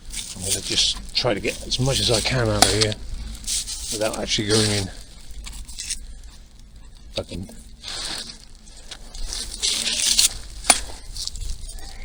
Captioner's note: sniggers